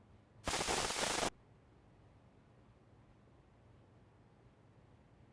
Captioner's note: static crackling